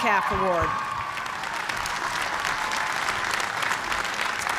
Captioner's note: cheers and applause